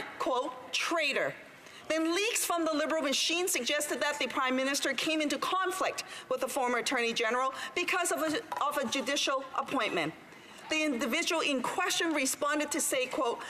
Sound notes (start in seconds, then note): none